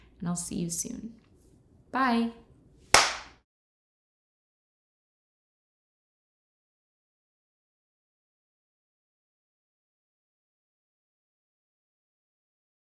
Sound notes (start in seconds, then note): 2.9 hands clap